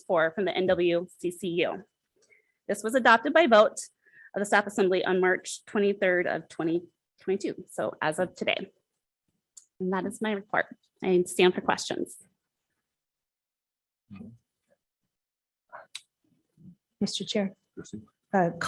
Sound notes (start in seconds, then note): none